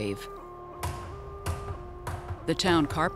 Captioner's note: hammering